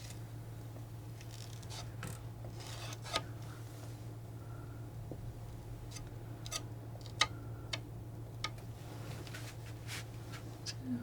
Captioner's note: tapping